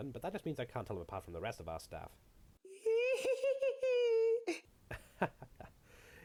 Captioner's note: insane Giggling